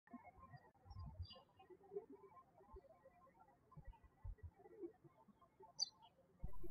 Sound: birds chirping

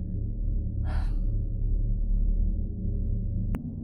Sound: sigh

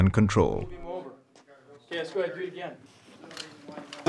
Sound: voiceover

